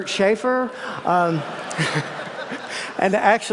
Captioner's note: laughter